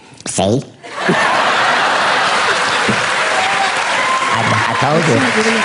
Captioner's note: audience laughs